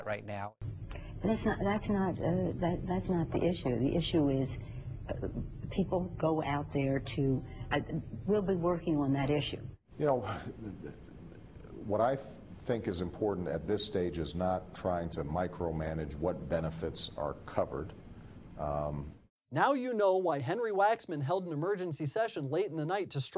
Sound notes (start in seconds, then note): 10.2 sigh